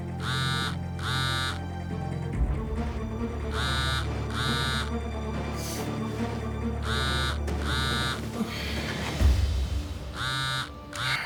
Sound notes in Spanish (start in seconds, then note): 4.2 el teléfono vibra